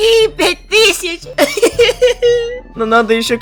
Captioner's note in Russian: сумасшедший смех х2